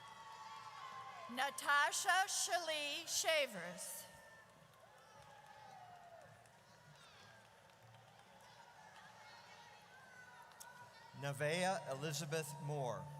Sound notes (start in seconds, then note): 3.2 audience cheers